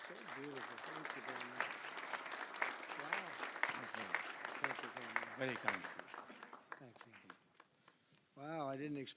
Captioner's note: applause